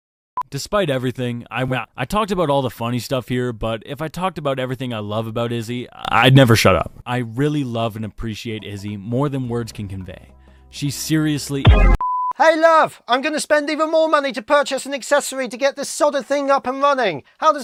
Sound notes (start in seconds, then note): 12.5 In redhotsonic's voice